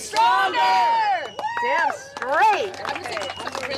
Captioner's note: applause